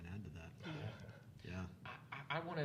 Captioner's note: panelists chuckling